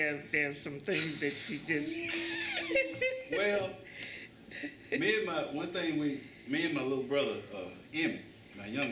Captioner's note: laughter